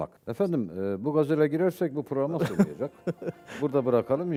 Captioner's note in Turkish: kahkaha